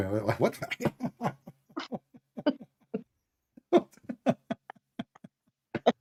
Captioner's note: Ketawa